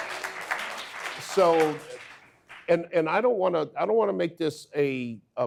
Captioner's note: audience applause